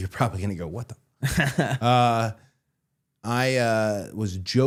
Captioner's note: chuckling